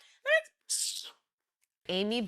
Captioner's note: scoffs